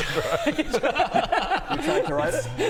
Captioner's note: patronising giggles